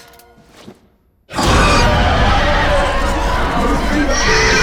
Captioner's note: demon screeching